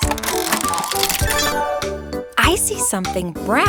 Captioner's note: mechanical whirring